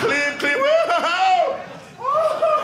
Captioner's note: audience laughing